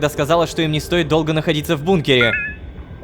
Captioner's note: new notification